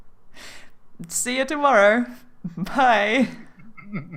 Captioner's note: chuckle